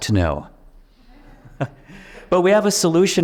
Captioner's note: audience chuckles